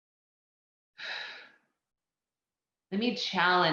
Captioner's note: exhales loudly